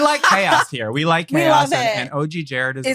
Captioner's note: laughs